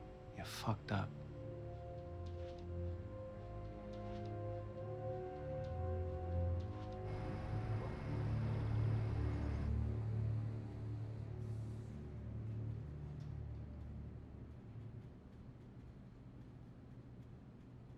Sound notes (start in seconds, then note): none